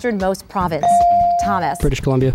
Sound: ding

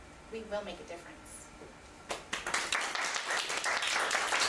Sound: audience applauding

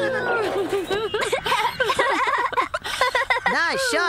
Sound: laughing

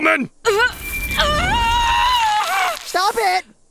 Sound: groans of pain

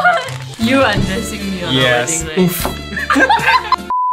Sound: laughter

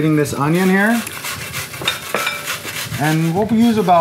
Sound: scraping

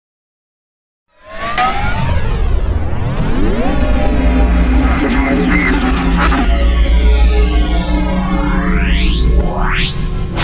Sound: sound of morphing

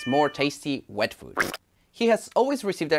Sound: food splatting

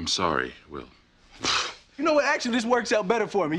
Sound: sniffs

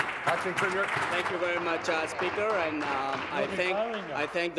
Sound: applause

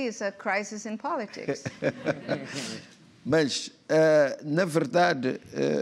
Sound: laughs; speaking portuguese

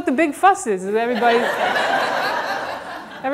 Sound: audience laughter

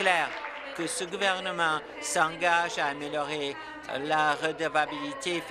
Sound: applause

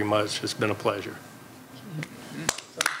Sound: applause

